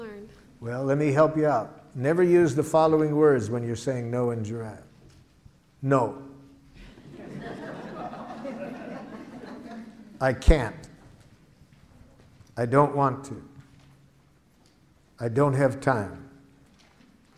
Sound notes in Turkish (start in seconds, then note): 6.8 Gülüşmeler